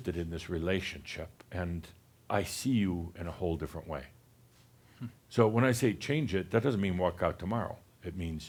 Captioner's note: none